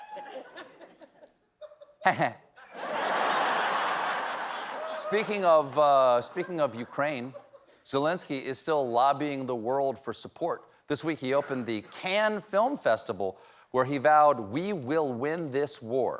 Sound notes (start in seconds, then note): 6.0 laughter